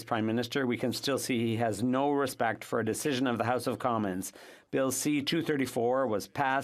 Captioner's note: speaking French